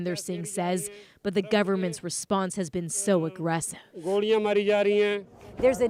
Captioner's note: speaking alternate language